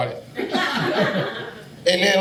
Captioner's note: audience laughing